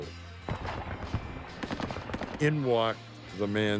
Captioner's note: guns firing